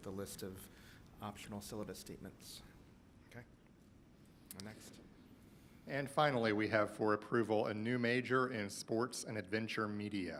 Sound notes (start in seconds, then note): none